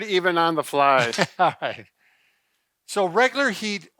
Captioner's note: laughs